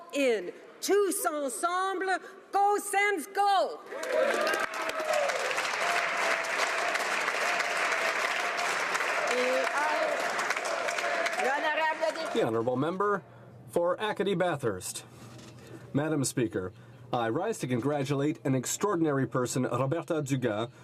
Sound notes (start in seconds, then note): 8.9 applause